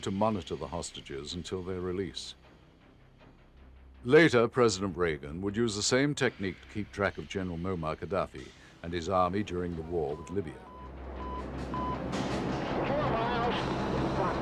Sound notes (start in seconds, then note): 8.3 radar beeping